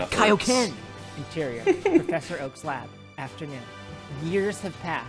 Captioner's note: laughs